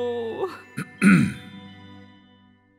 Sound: cough

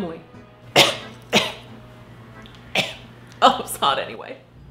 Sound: coughs

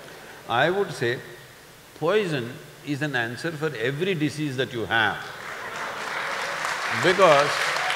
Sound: laughter/Applause

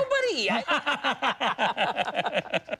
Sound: both laugh

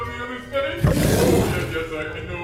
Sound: an Animalistic Growl in the distance

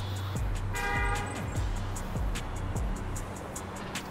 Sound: horn honks

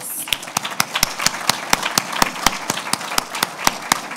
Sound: applauding

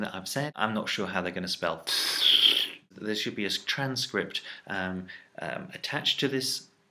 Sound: rasp

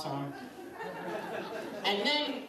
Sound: laughter

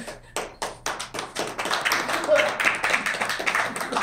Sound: cheering

